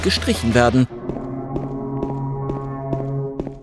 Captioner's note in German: Ferner, dumpfer Sirenenton